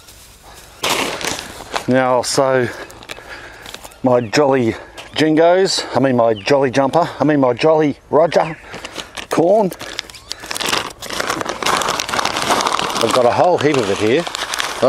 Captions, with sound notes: (package crackles) Now I'll sew my Jolly Jingos, I mean my Jolly Jumper, I mean my Jolly Roger corn. (package rustles) I've got a whole heap of it here.